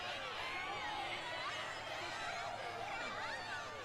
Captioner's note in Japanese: 大歓声